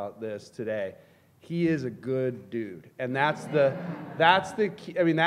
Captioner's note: laughter